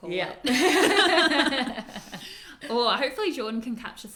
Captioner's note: both laugh